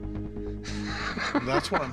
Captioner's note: laughter